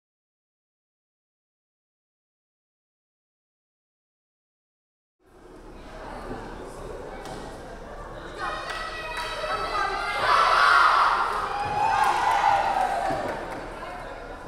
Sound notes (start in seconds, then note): 5.3 crowd chattering; 8.3 players chanting; 11.4 crowd cheering